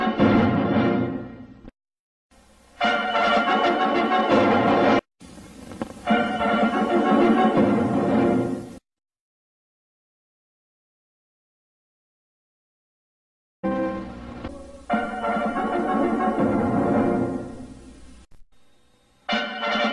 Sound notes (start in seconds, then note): 9.2 silence; 14.8 retro fanfares resuming